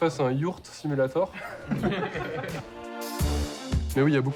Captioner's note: laughter